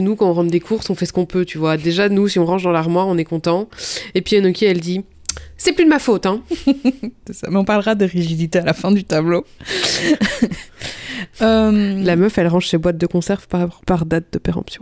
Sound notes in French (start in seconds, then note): 6.6 rire